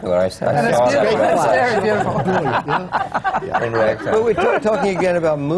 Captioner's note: laughter